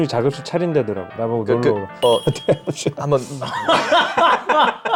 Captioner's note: stutters out of respect